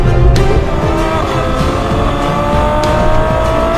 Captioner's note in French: Vrombissement du moteur